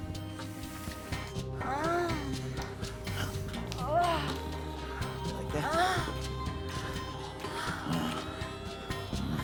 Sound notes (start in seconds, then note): 1.2 moaning; 7.3 heavy breathing